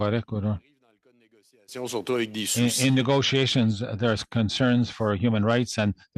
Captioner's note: speaking French